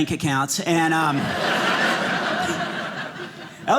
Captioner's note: audience laughing